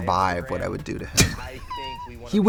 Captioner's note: Katya laughs